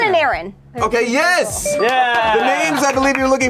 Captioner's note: bell dings; claps